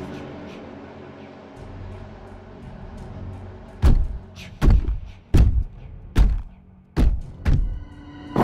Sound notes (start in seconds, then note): 3.8 tromping footsteps